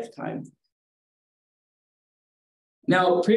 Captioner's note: pause